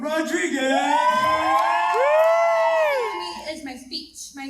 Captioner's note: crowd cheering